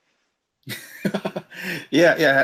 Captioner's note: laughs